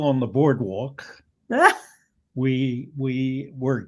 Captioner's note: laughs